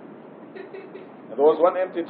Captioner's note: Bir kadın gülüyor